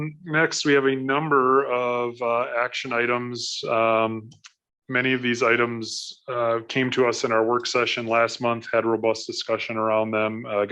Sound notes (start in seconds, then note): none